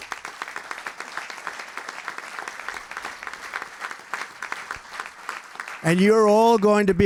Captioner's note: applause